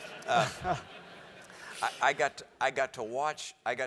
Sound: laugh

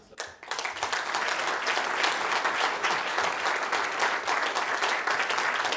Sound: applause

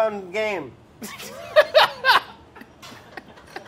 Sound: laughing

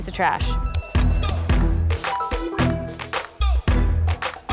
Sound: bell ringing

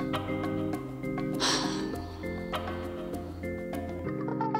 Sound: sigh

